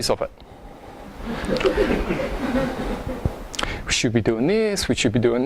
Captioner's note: audience laughing